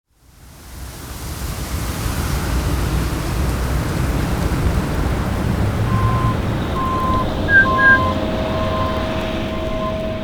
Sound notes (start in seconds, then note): 5.8 bird call